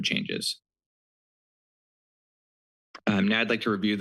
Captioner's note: pause